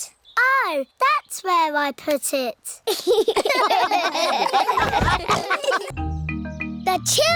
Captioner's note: all laugh